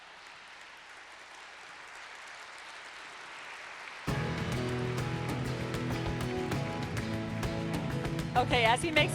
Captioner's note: applause - Music